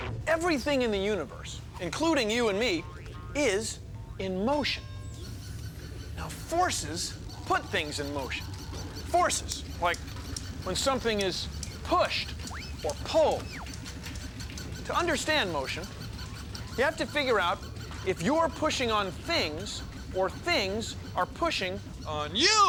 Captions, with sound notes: EVERYTHING IN THE UNIVERSE, INCLUDING YOU AND ME, IS IN MOTION. [ BELL DINGS ] NOW, FORCES PUT THINGS IN MOTION -- FORCES, LIKE WHEN SOMETHING IS PUSHED OR PULLED. TO UNDERSTAND MOTION, YOU HAVE TO FIGURE OUT IF YOU ARE PUSHING ON THINGS OR THINGS ARE PUSHING ON YOU.